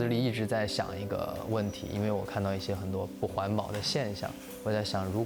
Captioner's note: speaking chinese